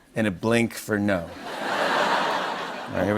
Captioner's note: laughter